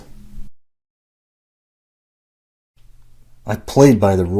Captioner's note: silence